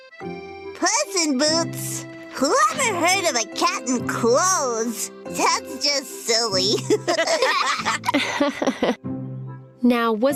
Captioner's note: laughter